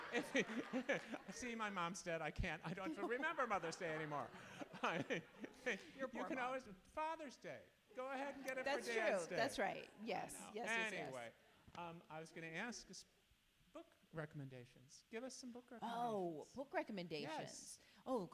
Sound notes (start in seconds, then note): 0.0 audience laughs; 4.8 chuckles